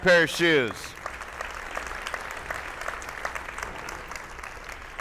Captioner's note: attendees applauding